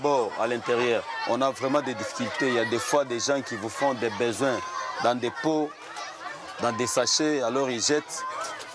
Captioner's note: foreign language